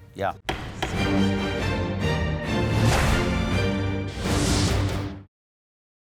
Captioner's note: dramatic music; hammer thuds